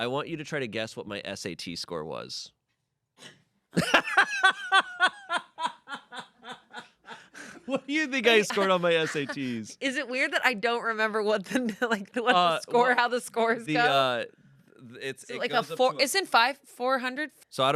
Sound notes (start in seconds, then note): 3.2 crew gasps; 3.8 Shayne laughs